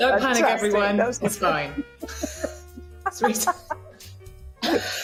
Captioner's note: laughter